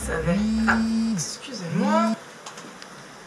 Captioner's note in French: le téléphone vibre